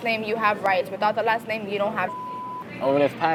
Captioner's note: beep